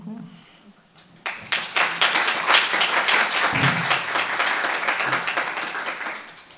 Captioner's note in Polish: oklaski